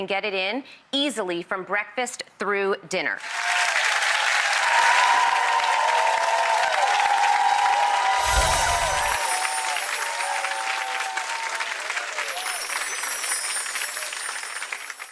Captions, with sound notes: get it in easily from breakfast through dinner. (applause)